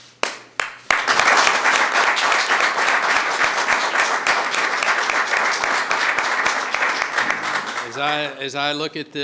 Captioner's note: applause